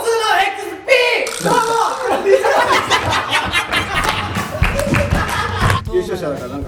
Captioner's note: laughs